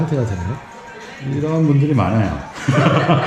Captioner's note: laughs